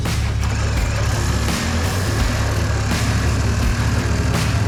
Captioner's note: saw buzzing